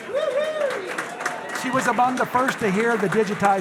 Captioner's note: audience applauding; audience cheering